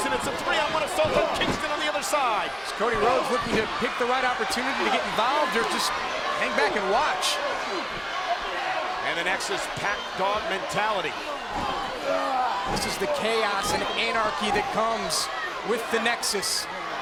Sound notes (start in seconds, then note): 7.5 crowd yelling; 11.4 Barrett groaning